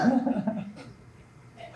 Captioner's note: laughs